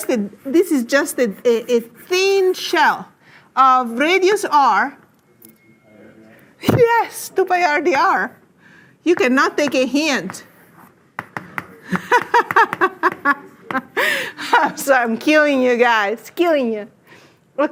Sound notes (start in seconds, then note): 11.8 laughs